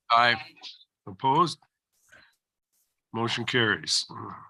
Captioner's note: silence